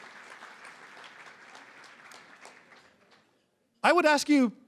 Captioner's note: applause